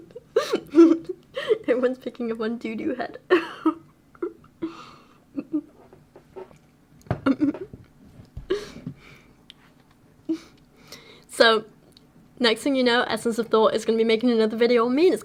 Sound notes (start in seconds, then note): 0.0 breaks out laughing; 3.2 laughter continues